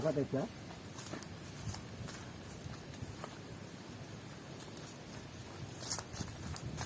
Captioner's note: sound of footsteps on the grass